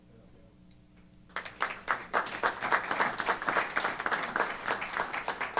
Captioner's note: applause